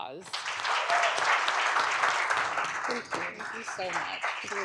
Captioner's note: audience applauds